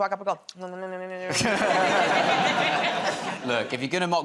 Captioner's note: laughter